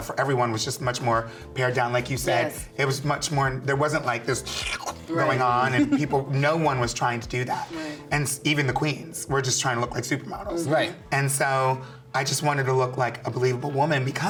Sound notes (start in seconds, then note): 4.4 slurping